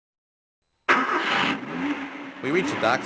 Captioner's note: car engine